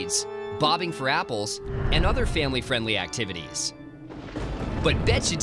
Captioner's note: thunder